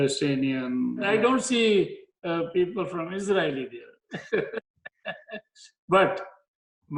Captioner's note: laughs